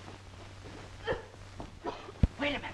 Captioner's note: Minerva coughing